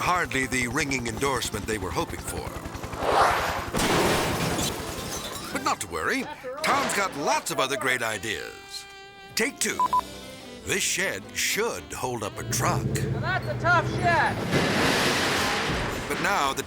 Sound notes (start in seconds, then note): 3.0 zoom-in whooshes; 3.7 shed crashing; 9.8 camera beeping; 14.9 shed crashing